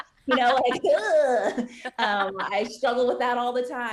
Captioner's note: laughing